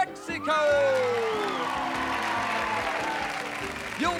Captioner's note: applause